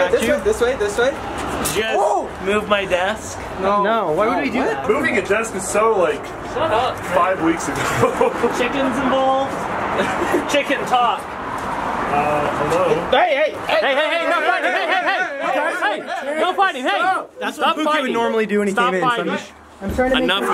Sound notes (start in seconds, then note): 15.1 all shouting